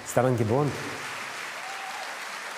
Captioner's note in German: Applaus, Jubel